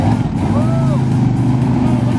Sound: engine revs

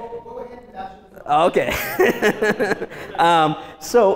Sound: laughs

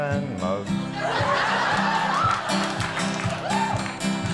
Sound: crowd laughs

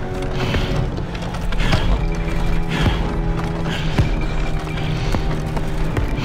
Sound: coffin carrier breathes heavily

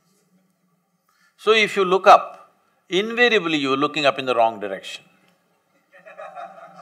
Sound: laughter

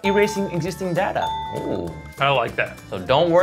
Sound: bell ringing

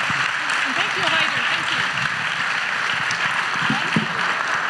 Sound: audience applauds

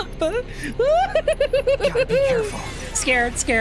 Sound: scared Laughter

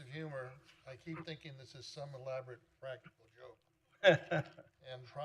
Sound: laughter

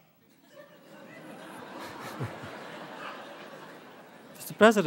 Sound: audience laughter

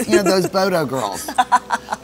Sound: laughs

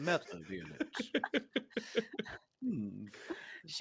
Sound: multiple chuckling

